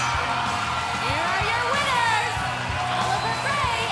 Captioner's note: bell ringing